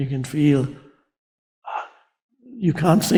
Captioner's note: Eckhart sighs